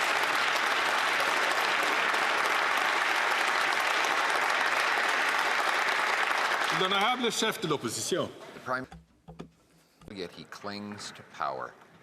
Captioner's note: some Applause